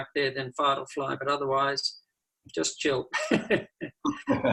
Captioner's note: both laugh